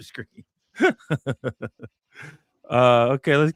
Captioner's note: laughs